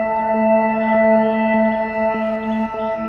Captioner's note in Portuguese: Pássaros cantam